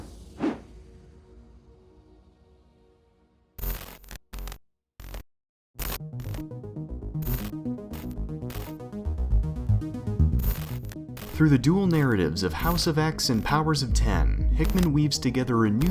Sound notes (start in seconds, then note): 0.0 whooshing noises; 4.1 static buzzing; 8.8 intrigue music